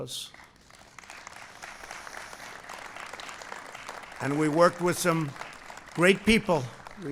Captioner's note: applause